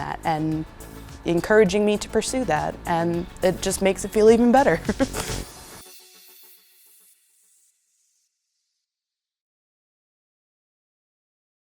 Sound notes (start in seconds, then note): 4.8 laughs; 5.5 upbeat music